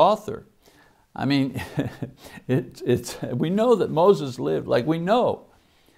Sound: chuckling

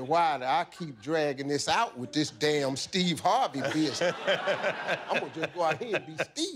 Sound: laughter

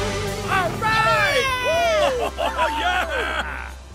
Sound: cheering

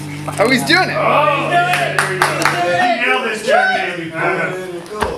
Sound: clapping

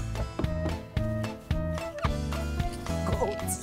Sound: laughing

